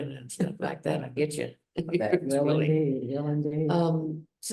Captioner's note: laughs